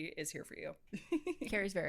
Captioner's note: laughs